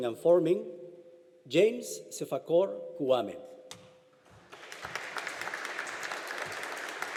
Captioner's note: audience applauding